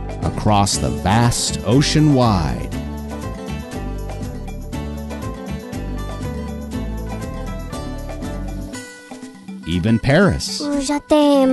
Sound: speaking Japanese

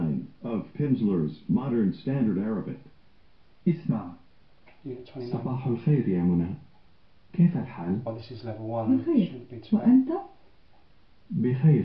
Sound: arabic dialogue

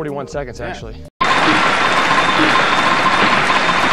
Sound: voiceover; clapping

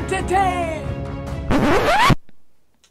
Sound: record scratch

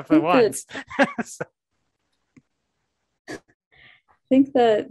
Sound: laughing

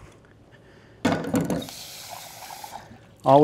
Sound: dish clanking

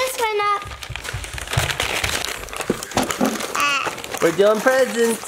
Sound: paper tearing and crinkling

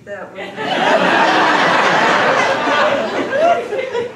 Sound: laughing

